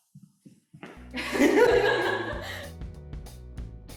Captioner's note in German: hysterical laughter